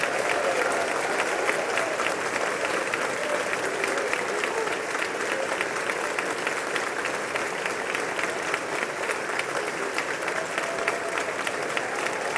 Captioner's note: applause